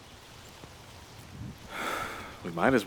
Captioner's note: sighs